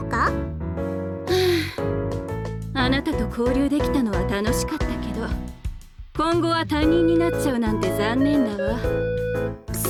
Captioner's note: sigh